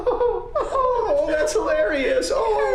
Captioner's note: Scott laughs mockingly